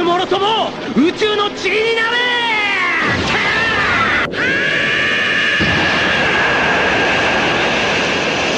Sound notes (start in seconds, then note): 2.5 duet screams